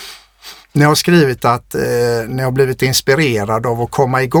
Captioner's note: scoffs